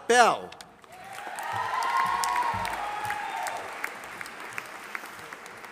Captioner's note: audience applauding